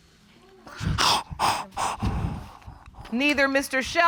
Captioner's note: sobbing